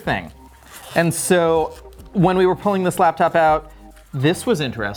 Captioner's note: zipping